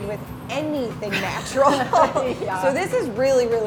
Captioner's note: laughs